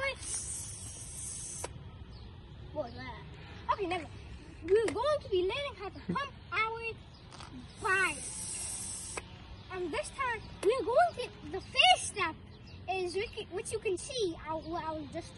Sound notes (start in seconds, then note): 0.0 whizzzz; 7.8 whizzz